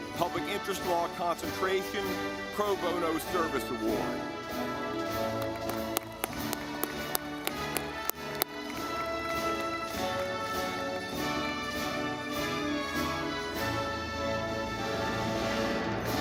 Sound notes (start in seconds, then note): 3.0 audience clapping